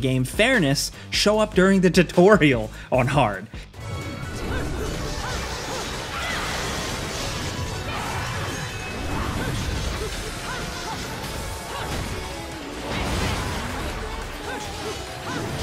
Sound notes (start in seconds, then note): 4.4 dramatic music; 6.9 grunts